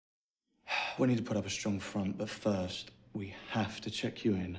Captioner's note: sighs